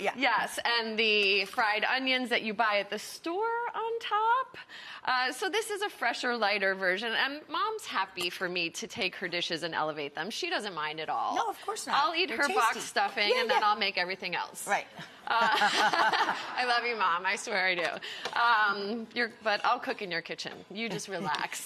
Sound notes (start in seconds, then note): 15.5 audience laughing; 20.5 Rachael laughs